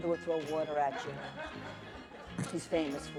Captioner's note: laughter